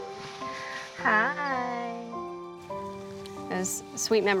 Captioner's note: sweetly